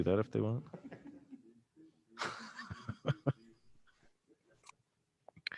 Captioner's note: councillors laughing